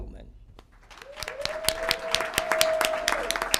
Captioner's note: applause